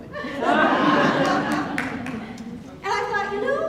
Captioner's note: audience laughing